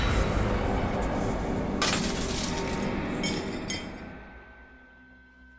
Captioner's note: glass shattering